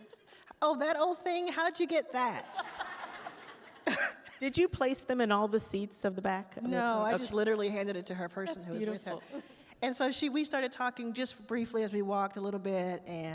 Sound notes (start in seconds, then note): 2.4 attendees laugh